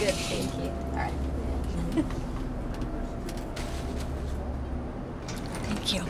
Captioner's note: chuckle